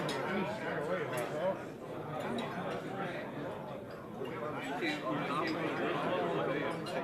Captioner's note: buffet room chatter